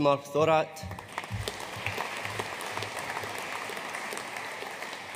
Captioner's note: audience applauding